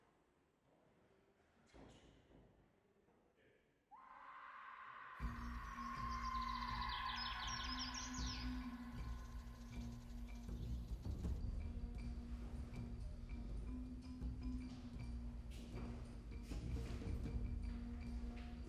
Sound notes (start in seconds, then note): 3.9 woman screams in distance; 5.7 suspenseful music